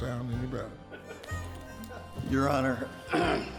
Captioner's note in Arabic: ضحكة مكتومة في المحكمة; ينظف حلقه